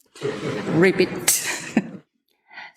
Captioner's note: laughs